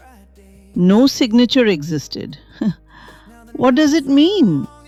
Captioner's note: laughs nervously